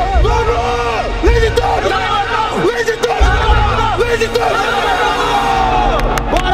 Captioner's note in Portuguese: grito de aquecimento